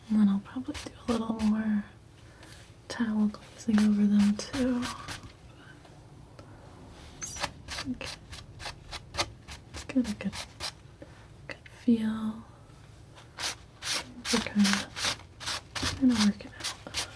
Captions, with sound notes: Then I'll probably do a little more towel closing over them too. [scratching] Gonna get a good feel. It's kind of working out.